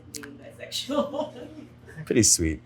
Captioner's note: interviewer laughs